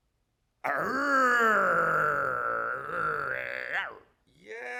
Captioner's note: actor grumbles